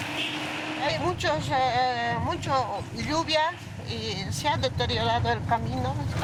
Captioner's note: speaking in foreign language